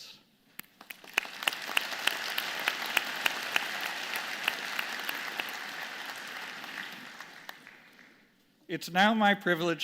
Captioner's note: applause